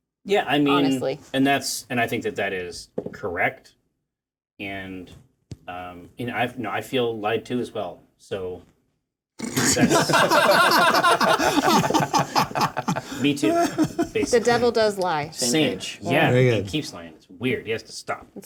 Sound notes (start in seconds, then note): 9.5 laughter